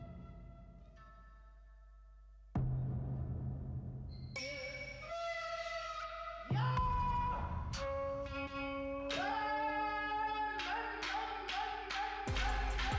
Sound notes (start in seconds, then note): 5.1 yells; 9.3 yelling